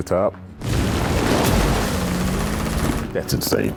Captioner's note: gun fires